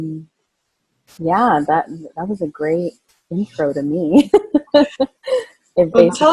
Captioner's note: laughing